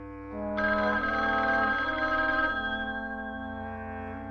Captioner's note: phone ringing